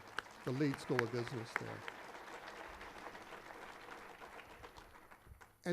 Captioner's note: applause